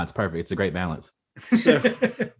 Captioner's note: laughs